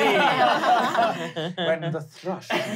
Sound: laughing

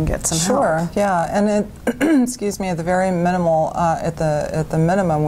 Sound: coughs

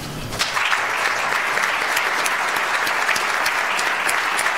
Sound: audience applauds

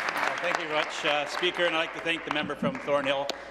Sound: applause

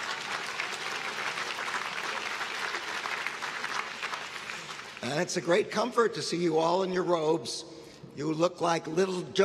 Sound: applause

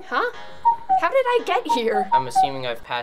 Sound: cuckooing

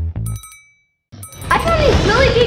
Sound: bell ringing

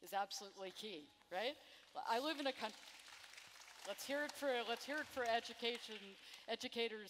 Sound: applause

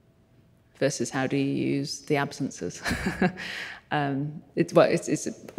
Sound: chuckles

